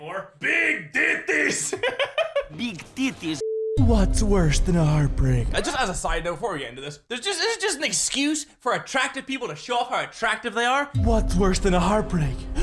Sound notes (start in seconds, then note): 1.6 giggles